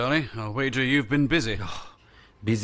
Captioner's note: sigh